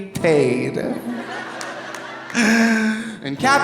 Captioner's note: audience laughing